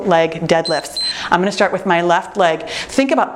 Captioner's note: timer beeps